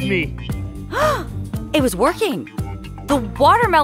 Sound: gasping

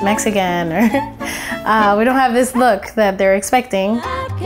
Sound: laughing

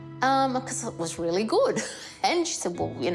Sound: chuckles

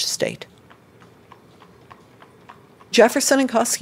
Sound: horse trotting

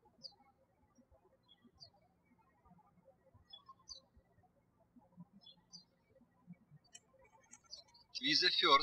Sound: birds chirping

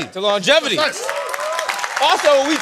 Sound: applause

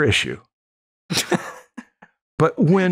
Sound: laughter

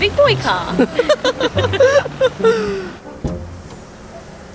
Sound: laughs; playful music

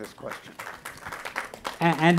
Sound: applauding

